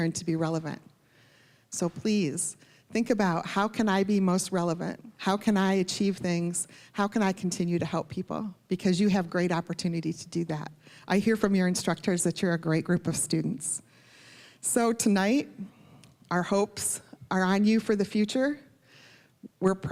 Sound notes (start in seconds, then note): none